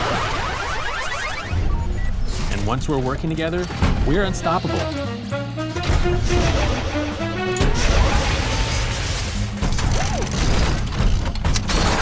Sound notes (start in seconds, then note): 6.2 robots whirring